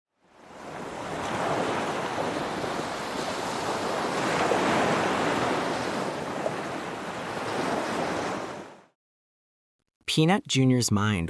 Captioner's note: ocean waves